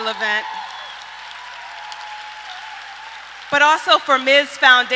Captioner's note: applauding